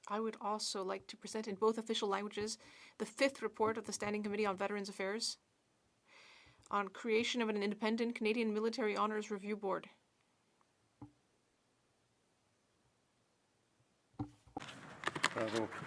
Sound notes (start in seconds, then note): 2.5 speaking French